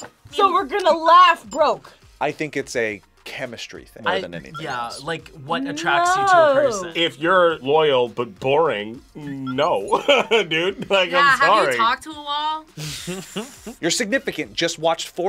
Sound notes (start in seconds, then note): 9.8 laughs; 12.8 React chuckles